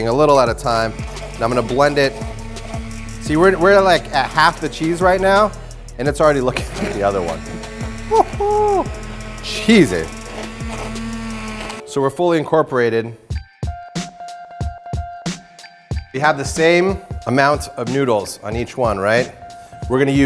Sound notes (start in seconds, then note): 10.6 hand blender whirring; 13.6 funky drumbeat